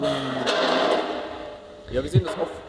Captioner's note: crackling